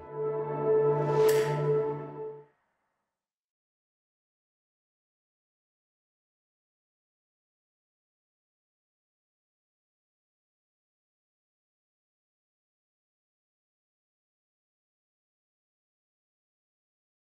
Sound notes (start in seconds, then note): 1.2 click